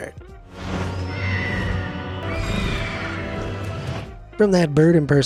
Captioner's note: eagles screeches